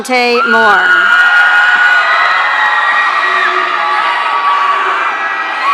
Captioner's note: audience cheering